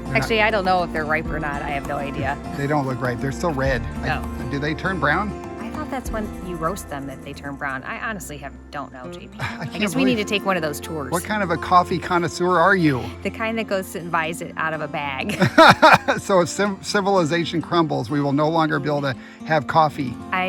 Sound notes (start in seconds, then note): 15.3 laughing